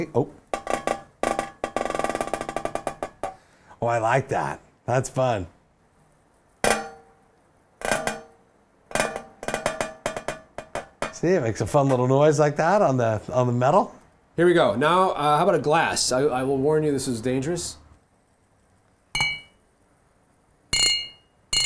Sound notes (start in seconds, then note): 0.5 metal taps; 6.3 metal taps; 19.1 glass ringing